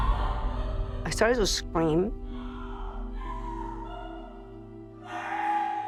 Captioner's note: screams and sobs